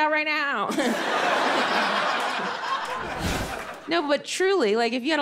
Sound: audience laughing

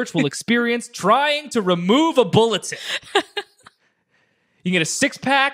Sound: laughs

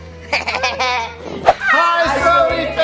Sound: evil laughing

